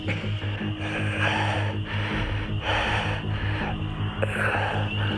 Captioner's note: Shepherd panting